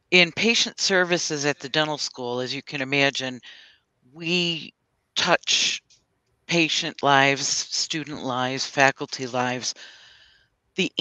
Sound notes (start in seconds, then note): none